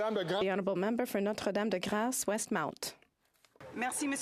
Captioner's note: some Applause